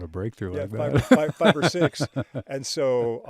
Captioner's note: laughing